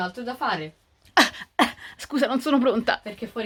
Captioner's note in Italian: tosse ironica